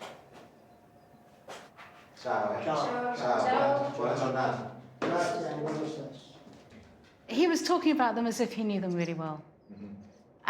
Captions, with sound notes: (all chattering) - He was talking about them as if he knew them really well.